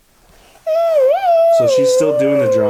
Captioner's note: murmurs and whines